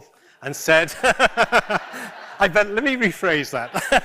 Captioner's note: laughter